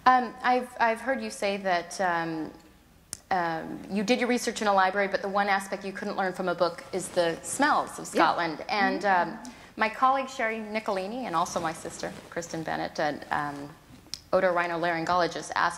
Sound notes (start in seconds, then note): none